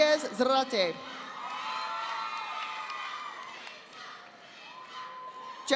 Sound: audience applauding

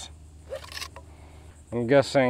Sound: loud scraping

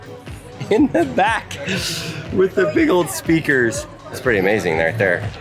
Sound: laughs

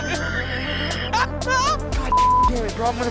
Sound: man with glasses laughs

